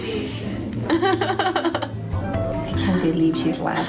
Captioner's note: laughs